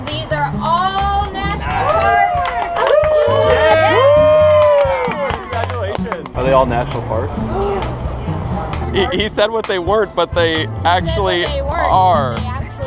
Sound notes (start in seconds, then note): 2.1 yelling and cheering